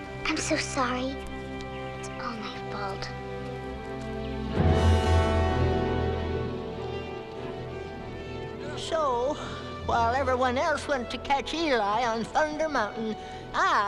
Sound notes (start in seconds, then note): 3.2 brief foreboding music; 4.6 hooves thudding quickly